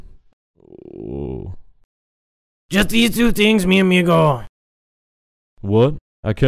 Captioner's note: moans